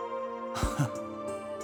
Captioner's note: bemused huff